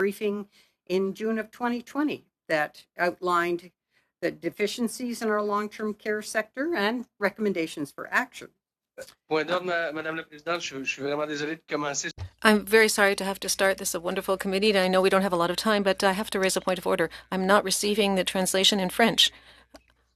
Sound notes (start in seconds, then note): 16.0 speaking french